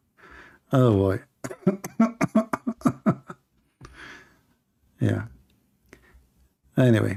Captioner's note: Ketawa